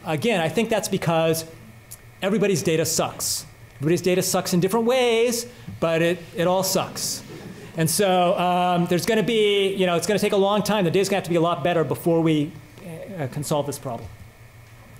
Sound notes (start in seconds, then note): 8.6 laughter